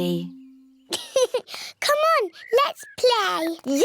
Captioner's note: laughs